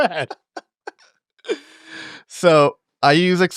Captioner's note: all laughing